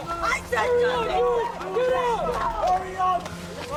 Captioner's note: muffled yells